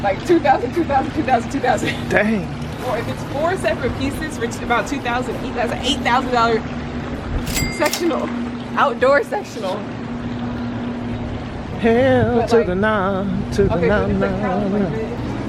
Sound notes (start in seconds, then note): 7.4 cash register rings